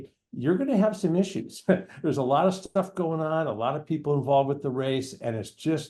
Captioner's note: laughs